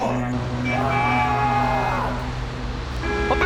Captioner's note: Bigg T SCREAMING